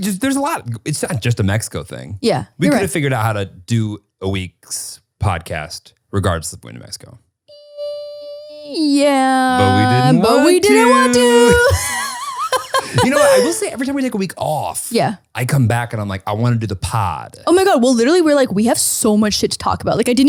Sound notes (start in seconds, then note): 11.9 laughing